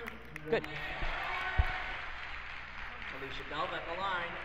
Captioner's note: crowd cheers